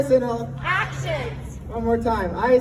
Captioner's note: crowd